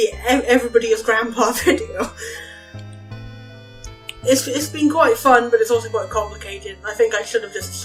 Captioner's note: laughs